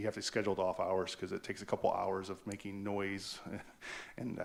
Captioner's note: laughs